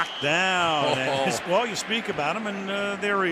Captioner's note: chuckles